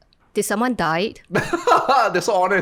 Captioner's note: laughs